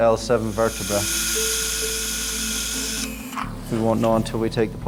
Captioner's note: drill whirring